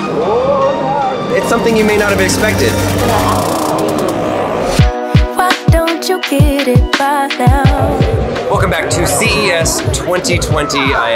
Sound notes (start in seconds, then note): 3.3 machine farts; 4.6 bright hip-hop music